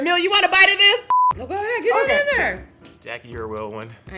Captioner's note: beep